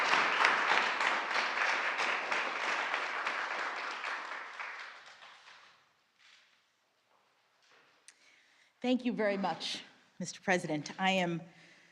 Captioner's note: applause